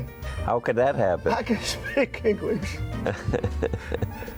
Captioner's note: laughing